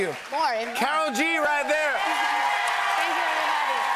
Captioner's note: cheers and applause